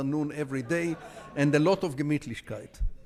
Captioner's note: speaking in foreign language